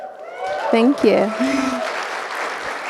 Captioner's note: audience applauding